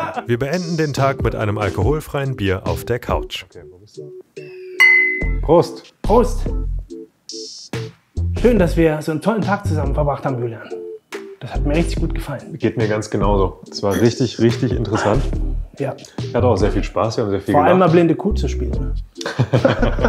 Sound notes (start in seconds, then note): 4.8 clinking